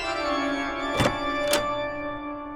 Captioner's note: door opens